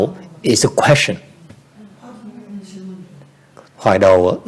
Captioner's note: background chattering